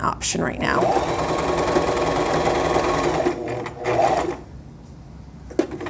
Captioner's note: sewing machine whirring